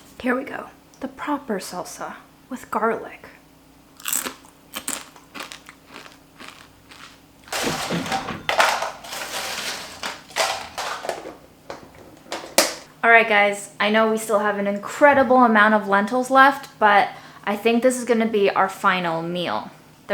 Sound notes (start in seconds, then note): 4.0 chip crunches